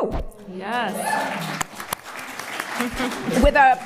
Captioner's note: applause